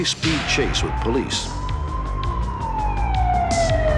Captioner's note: sirens wail